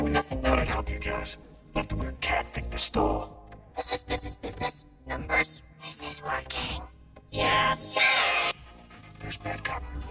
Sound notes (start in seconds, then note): 5.7 whispers